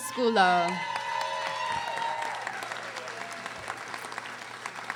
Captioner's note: audience applauding